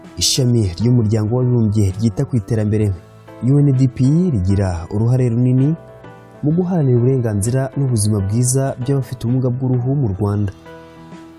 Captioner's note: speaking in Kinyarwanda